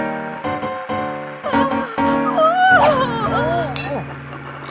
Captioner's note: audience member gasping; dramatic piano music